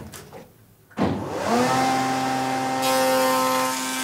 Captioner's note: loud machine noise